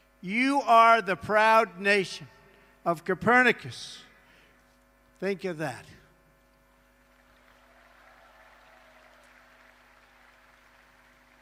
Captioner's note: applause